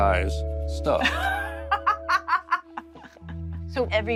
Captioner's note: laughs